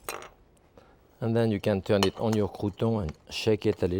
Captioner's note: none